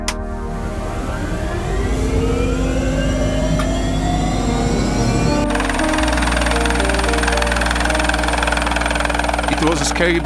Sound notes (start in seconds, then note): 0.0 switch clicks; 1.6 engine whirs; 6.2 helicopter whirs; 6.2 soft music continues